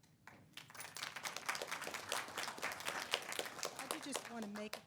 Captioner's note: attendees clapping